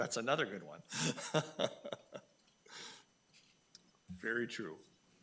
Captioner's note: laughing